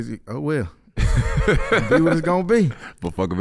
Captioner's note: laughing